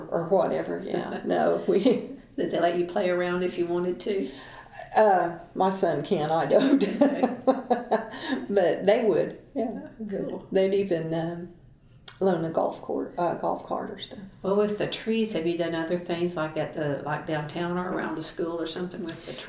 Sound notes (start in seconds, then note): 6.6 laughs